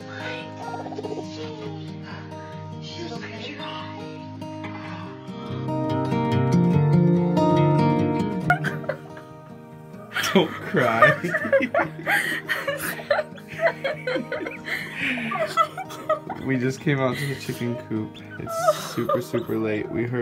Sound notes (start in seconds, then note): 4.7 soft music; 8.4 laughing and crying